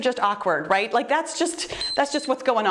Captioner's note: timer beeps